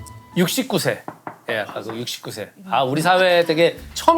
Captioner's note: knock Knock Knock